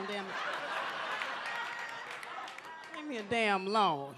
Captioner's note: audience laughs